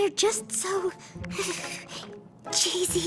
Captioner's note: shudder